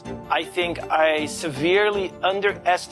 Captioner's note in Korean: none